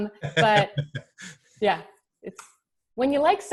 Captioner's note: laughing